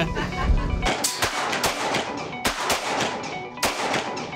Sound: gun shots

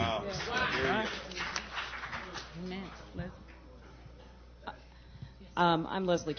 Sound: applause

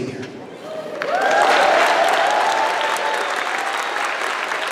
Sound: cheering

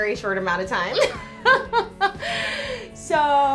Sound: laughs

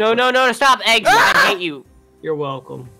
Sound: screams

